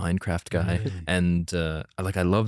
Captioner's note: laughs